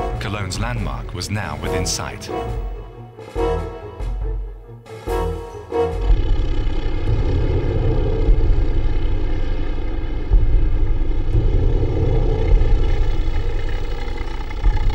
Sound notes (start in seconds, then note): 3.2 dramatic music; 6.3 tank rumbling